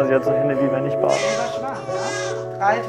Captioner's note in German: Schreien